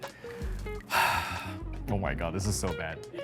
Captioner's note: sighs